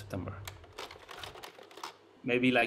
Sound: slide projector clicks

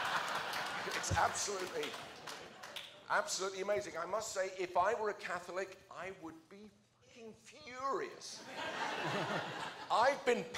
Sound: laughter

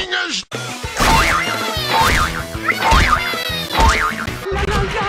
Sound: hopping sound; Mario humming

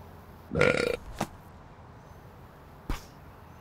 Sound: belches

